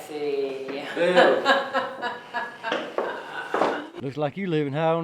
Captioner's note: laughing